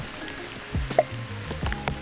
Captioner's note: pop